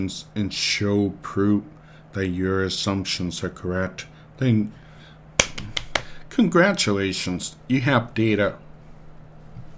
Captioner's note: clapping